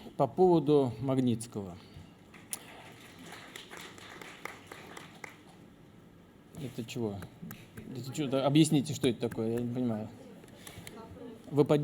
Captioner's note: applause